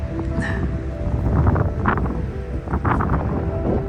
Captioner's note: wind noise